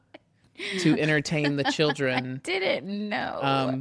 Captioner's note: laughs